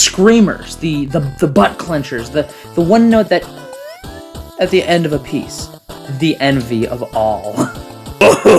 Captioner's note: squeak